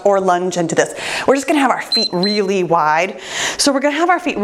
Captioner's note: timer beeps